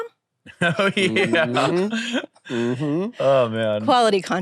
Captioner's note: laughs